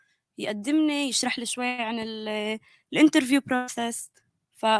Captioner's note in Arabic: لغة أجنبية